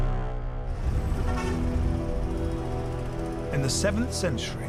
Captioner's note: intense music; cars honking